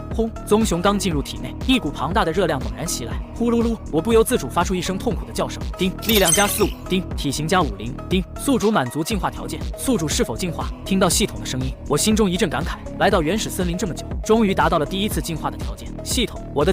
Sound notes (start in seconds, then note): 6.0 ding!